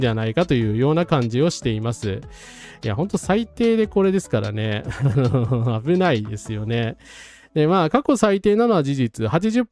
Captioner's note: laugh